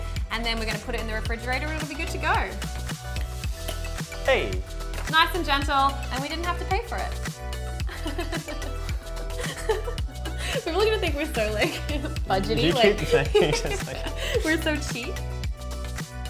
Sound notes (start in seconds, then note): 3.8 bottle pops; 9.2 laughs; 16.0 music fades